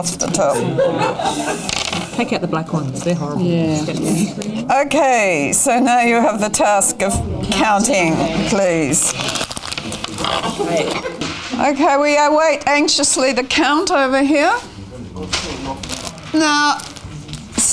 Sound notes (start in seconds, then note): 0.7 audience chatter; 9.3 audience chatter